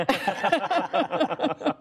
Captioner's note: laughter